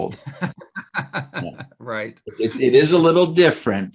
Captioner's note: laughing